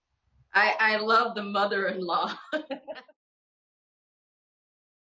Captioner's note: laughs